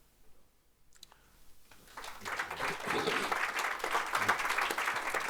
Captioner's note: audience applauding